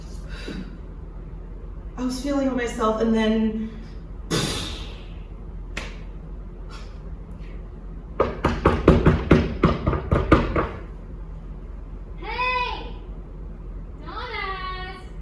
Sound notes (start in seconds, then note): 4.3 making explosion sound; 8.2 knocking